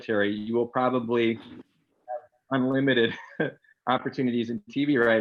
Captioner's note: laughs